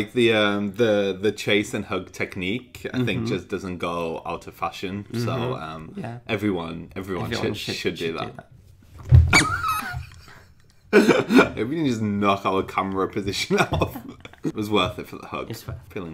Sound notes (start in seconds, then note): 9.2 squeaks; 9.4 laughing